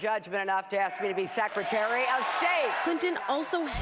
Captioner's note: cheers and applause